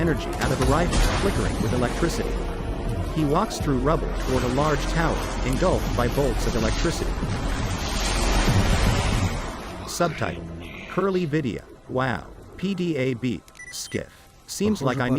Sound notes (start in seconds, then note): 4.1 electricity crackles; 13.4 electronic beeping